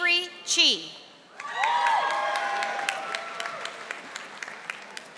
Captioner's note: audience applauding